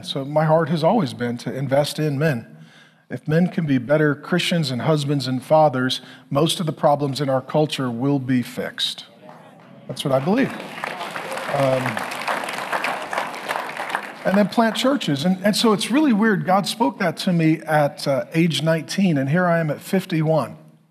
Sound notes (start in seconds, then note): 10.9 congregation clapping